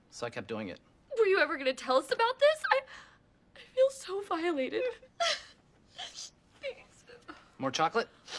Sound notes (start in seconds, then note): 4.9 ANNIE cries